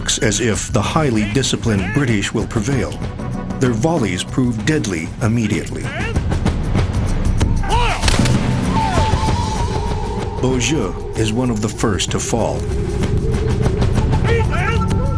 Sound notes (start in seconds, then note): 8.0 gunshots bangs